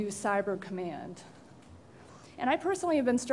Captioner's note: pause